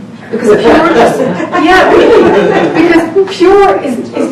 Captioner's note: audience laughter